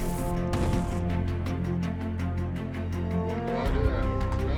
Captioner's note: poof